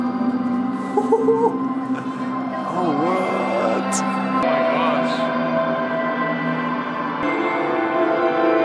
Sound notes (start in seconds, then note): 0.9 weird noise of excitement